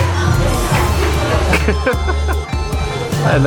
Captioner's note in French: rire